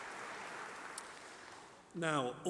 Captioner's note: applause